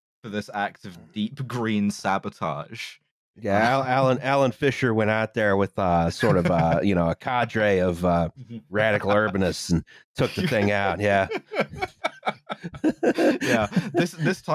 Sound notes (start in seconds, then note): 10.2 laughter